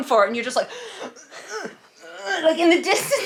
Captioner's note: heaving